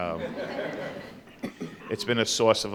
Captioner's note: audience laughs